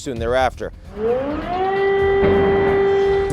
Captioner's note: sirens blaring